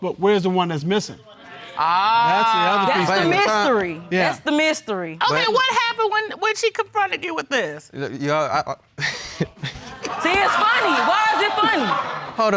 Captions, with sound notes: but where's the one that's missing? Ah... That's the mystery. That's the mystery. Okay, what happened when she confronted you with this? (STAMMERS) I... (LAUGHS) See, it's funny. Why is it funny?